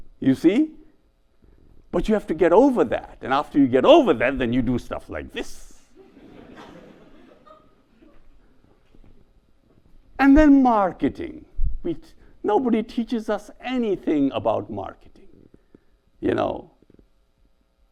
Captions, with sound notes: You see? But you have to get over that. And after you get over that, then you do stuff like this. (audience laughs) And then marketing. Nobody teaches us anything about marketing. You know?